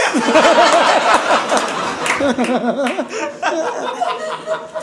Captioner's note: audience laughing